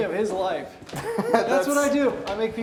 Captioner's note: Wes laughs